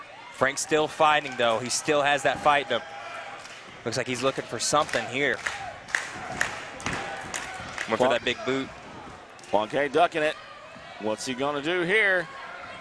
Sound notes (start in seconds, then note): 0.0 crowd cheering; 6.4 crowd clapping in sync